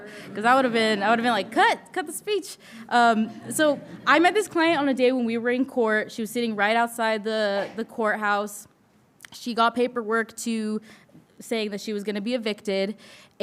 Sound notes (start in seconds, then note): 3.0 audience chuckling